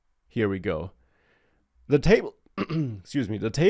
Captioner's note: clears throat